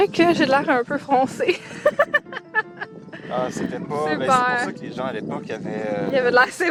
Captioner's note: laughs